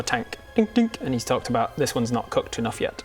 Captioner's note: dink dink